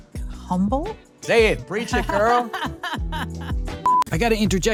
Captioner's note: laughs